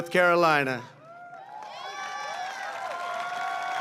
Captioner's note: applause